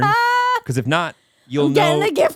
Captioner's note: laughing